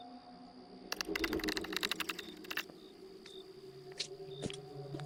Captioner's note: creature tittering